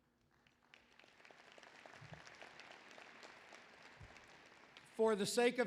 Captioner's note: applause